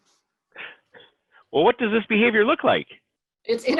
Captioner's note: chuckles